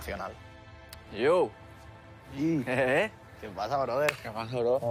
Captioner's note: laughs